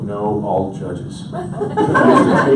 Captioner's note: audience laughs